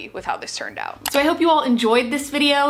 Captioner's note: mouse clicking